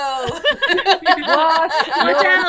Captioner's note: doctors laughing